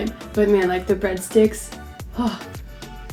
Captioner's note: sighs